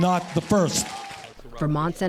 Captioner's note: cheering and applause